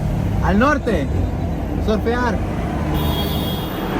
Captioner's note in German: Hupen